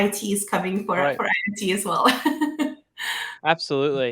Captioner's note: laughs